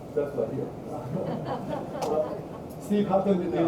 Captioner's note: audience laughing